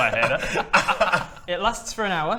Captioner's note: laughs